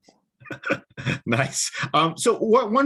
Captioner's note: laughs